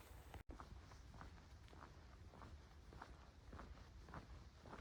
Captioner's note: footsteps